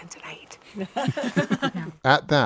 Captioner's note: all laughing